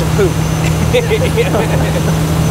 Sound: laughing

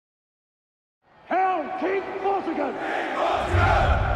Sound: crowds

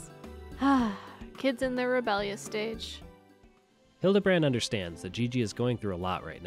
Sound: sigh

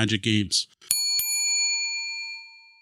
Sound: bell dings

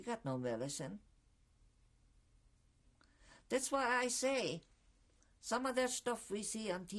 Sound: pauses for 3 seconds

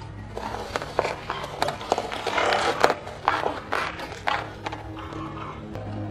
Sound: crunching noodles

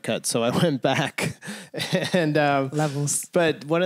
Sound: laughter

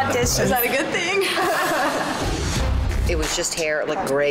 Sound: laughs

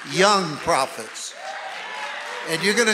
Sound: audience cheering and applauding

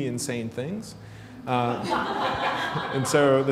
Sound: laughter

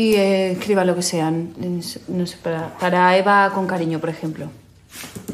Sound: stutters

